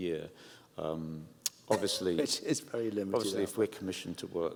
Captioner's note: laughs